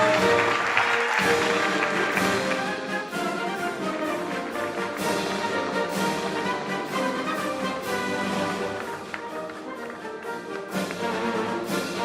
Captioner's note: applause